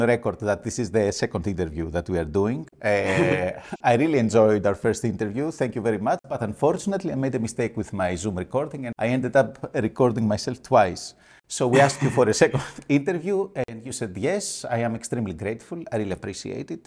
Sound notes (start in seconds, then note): 3.0 laughter